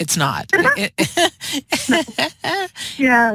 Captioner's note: laughter